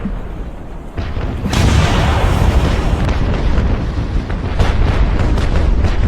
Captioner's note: explosions booming and rumbling